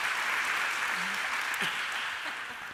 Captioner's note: applause